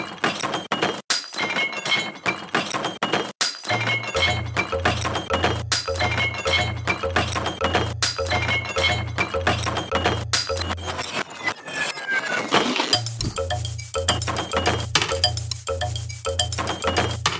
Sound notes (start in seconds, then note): 4.2 plucking a shard of metal; 10.3 reverse glass break; 13.3 rub plastic bags; 13.3 tap broken glass